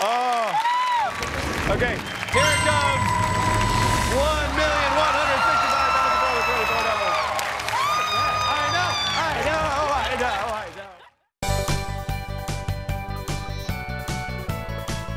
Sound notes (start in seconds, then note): 7.2 screams